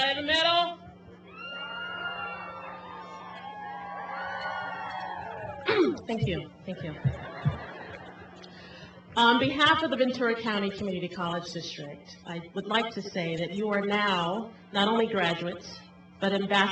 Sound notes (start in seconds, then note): 1.3 cheering